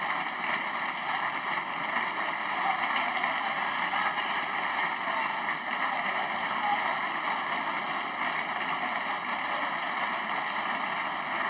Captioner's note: applause